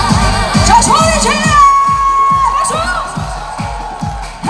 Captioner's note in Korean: 저 소리 질러,박수